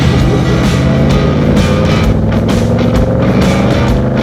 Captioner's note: engine revs